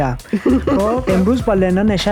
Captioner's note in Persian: خنده